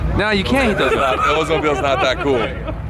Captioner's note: laughing